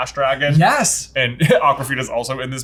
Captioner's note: chuckles